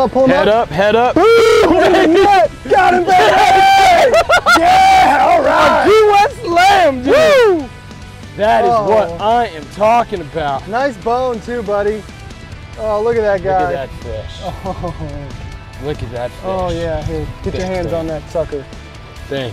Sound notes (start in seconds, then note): 1.1 both cheering, laughing; 7.4 whoops